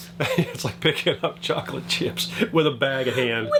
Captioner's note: laughs